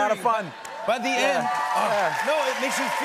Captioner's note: cheers and applause